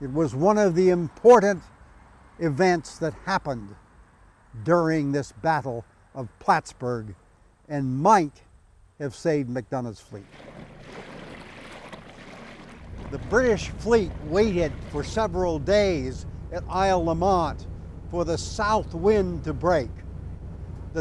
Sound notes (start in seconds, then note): 10.2 water sloshing